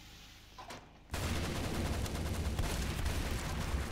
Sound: gunfire

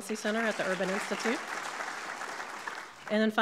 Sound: audience clapping

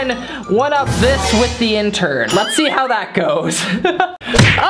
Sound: laughs

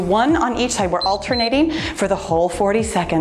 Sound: timer beeps

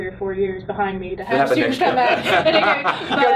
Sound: laughs

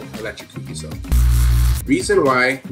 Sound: electric buzzing

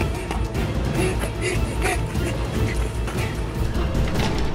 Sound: panting

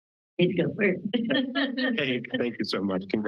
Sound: laugh

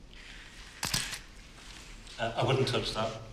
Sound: camera shutter clicks

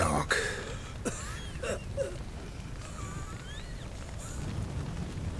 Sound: coughing, wheezing

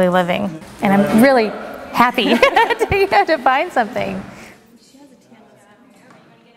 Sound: laughing

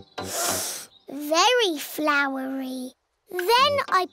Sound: sniffs

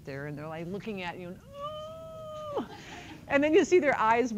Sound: crying sound

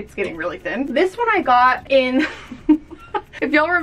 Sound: giggles

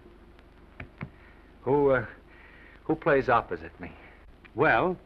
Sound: taps table twice

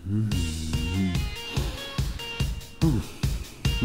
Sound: grunts and groans

